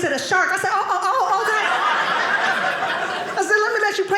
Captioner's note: audience laughing